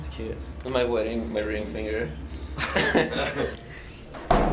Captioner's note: laughs